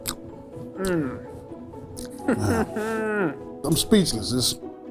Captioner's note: hums